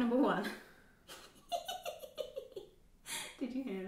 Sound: laughing

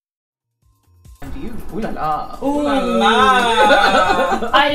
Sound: laughs

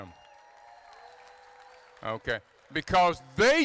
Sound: crowd applauding

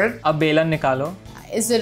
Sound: speaking in Hindi

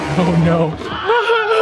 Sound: laughing

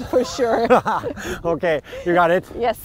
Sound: laughs

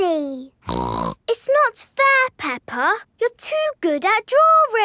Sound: snorts

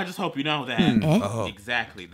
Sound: random Game noises

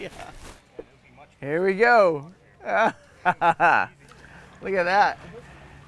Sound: laughing

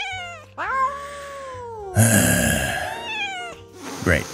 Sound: meow; instigating meow

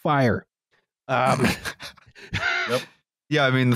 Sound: laughter

